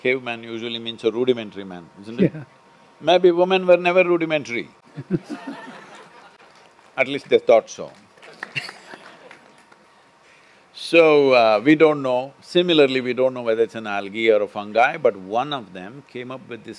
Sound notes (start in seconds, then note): 2.2 laughs; 5.1 laughter/Applause